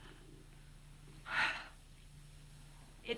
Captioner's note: exhales